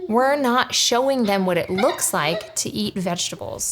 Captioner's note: kid giggles